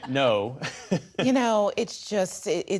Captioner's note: laughter